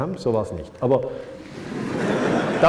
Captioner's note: laughter